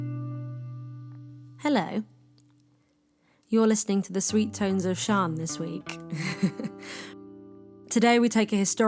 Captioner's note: laughs